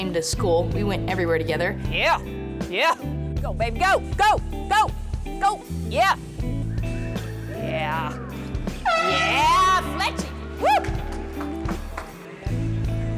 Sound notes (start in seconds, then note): 10.6 cheering